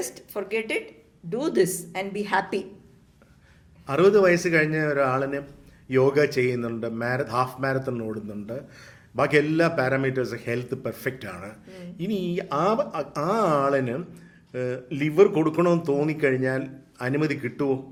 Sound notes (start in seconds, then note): 11.7 sighs